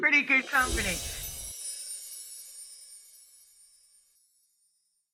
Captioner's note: wand swooshing